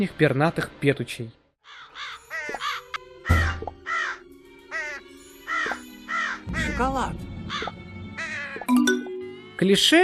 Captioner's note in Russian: Звуки Кар-Кар